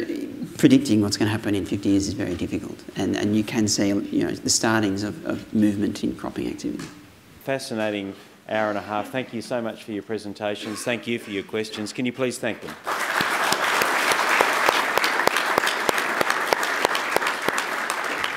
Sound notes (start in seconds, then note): 12.7 applause